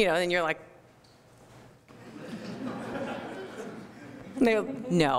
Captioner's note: laughter